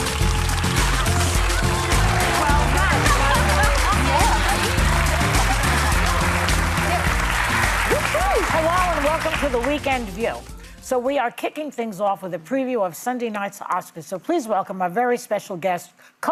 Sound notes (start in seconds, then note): 5.6 audience cheering